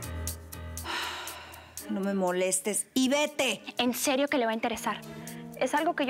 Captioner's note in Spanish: exhala